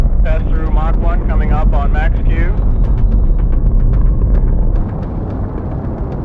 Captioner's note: rocket engine roaring